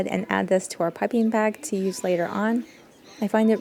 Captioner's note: cockatiel noises